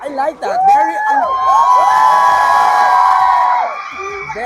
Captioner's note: loud cheering